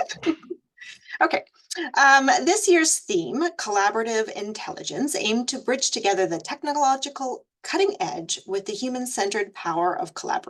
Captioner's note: laughs